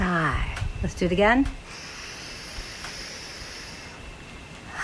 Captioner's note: inhales